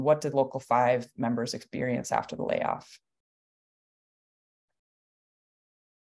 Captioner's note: pause